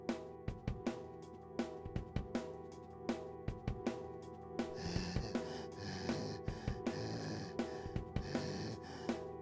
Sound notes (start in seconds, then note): 0.2 rushed percussive music; 4.6 Groden breathes heavily